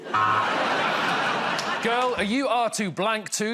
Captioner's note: laughter